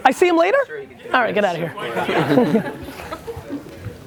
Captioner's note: laughs